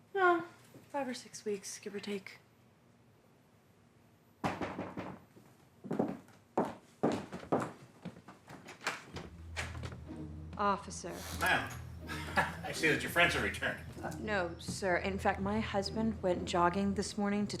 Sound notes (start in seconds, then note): 4.5 fist pounding; 7.0 boots tapping; 9.7 upbeat music; 12.0 laughs